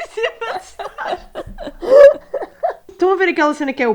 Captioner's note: laughs continues; laughs